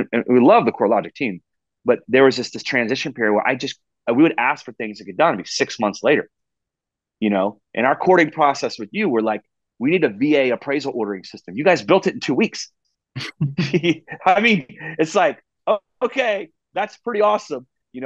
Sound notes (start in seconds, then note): 13.2 laughing